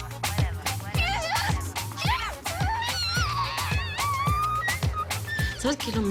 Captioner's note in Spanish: Gritos